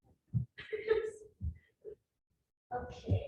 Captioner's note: woman laughing